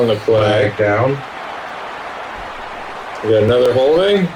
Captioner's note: crowd Noises